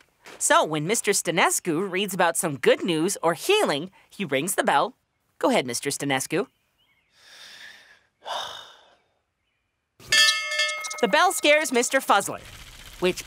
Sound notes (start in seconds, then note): 8.2 sigh; 10.0 ringing